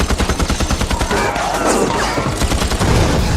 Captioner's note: yells